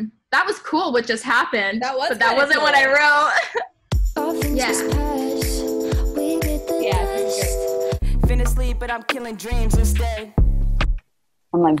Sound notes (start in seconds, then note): 2.2 laughs; 8.1 rap music